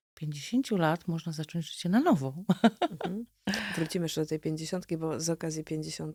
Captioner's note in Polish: śmiech